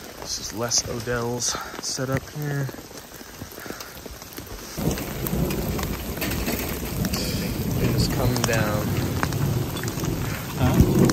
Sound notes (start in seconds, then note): 4.5 thunder rumbling